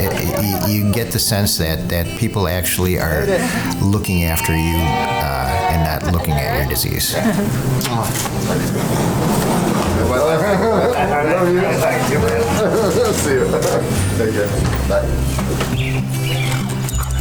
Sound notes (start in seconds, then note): 12.2 laughter